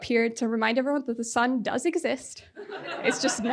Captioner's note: audience laughing